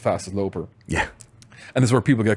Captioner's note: laughs